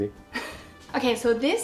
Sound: laughter

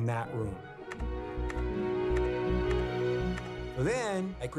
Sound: mouse clicking

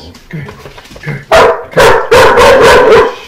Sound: dog barks

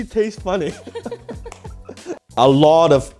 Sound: laughter

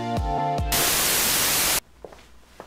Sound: Static

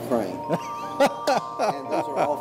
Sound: laughs

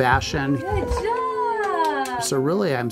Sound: clapping

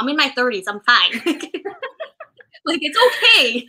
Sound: laughter

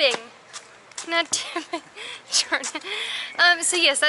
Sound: laughter

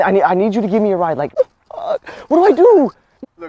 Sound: cries

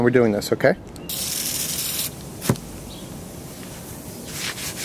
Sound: can sprays; scouring pad scrapes

